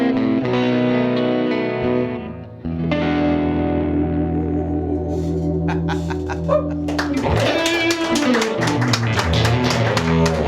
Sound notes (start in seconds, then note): 6.8 applause